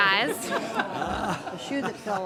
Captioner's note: laughter